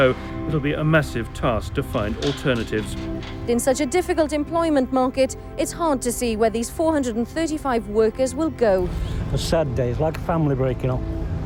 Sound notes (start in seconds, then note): none